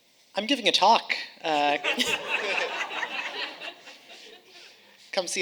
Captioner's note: audience laughing